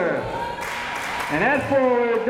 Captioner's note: crowd members cheering